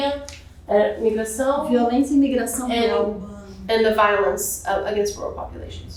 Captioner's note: speaking portuguese